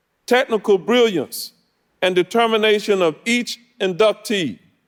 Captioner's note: none